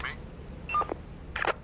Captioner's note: walkie Beeps; Walkie Clicks